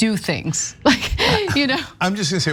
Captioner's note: chuckle